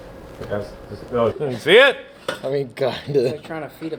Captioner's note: speaking away from mic